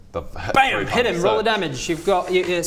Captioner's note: bam